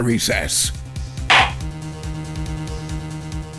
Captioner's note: gavel slam!